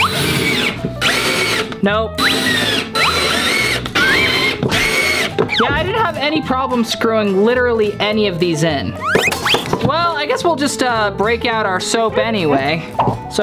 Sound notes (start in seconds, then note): 0.0 screwdriver whirs